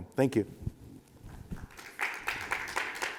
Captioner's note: applause